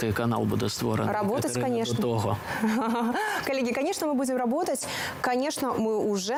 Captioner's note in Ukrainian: сміх